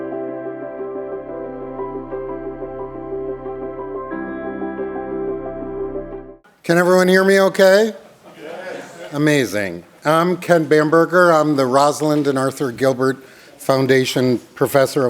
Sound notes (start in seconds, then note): 8.2 laughter